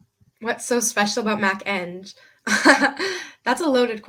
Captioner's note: laughing